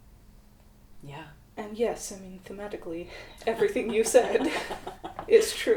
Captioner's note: laughter